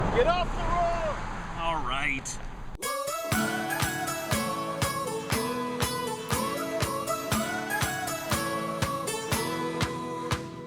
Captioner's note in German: Fahrer fährt vorbei